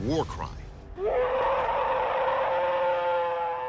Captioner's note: howling